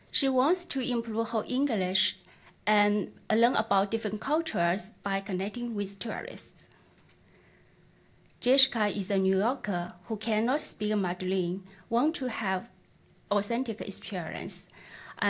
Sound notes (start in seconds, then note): none